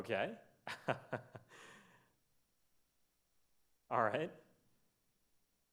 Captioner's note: lecturer laughs